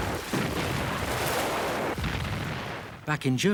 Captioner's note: explosions booming